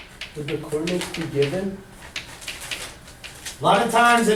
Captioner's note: voiceover